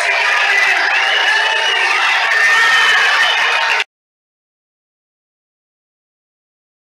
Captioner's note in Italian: Applauso